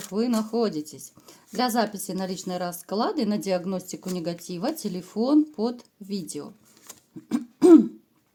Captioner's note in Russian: откашливается